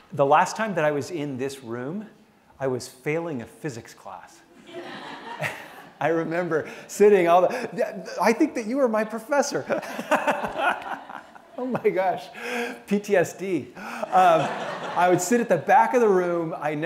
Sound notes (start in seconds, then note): 4.6 laughter; 9.5 laughs